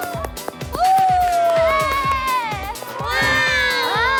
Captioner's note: scream~